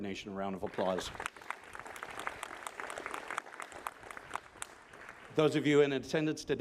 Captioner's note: applause